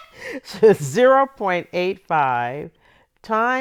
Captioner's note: laughter